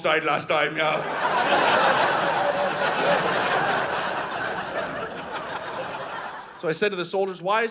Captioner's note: audience laughing